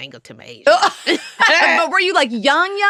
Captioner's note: laughter